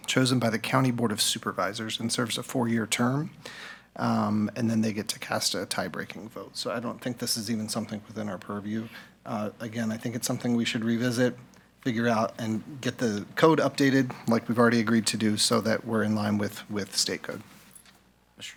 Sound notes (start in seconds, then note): none